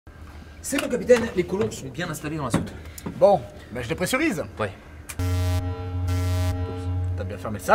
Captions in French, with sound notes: C'est bon capitaine les colons sont bien installés dans la soute Bon ben... Je dépressurise ! *Alarme* T'as bien fermé le sas?